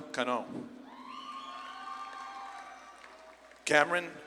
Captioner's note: audience claps and cheers